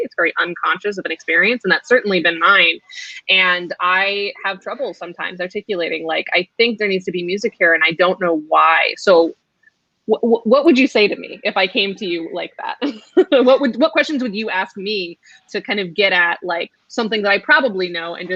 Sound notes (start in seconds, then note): 12.8 laughs